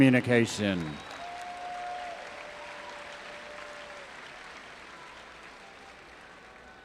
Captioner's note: audience applauding and cheering